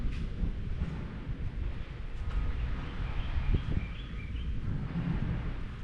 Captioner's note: thunder